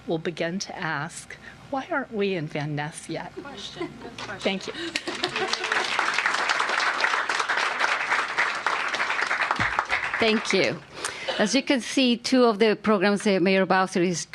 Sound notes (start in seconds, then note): 7.5 applause